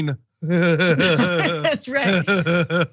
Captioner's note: laugh